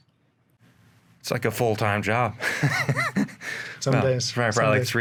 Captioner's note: laughs